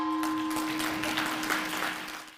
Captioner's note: gong ringing; people clapping